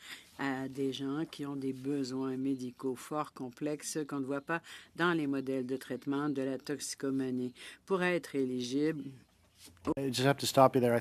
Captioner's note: speaking French